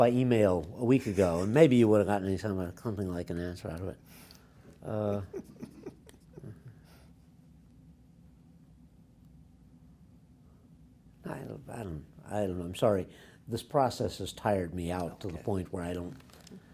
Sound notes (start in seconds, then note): 5.0 laughs